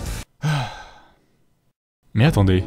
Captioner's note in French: soupir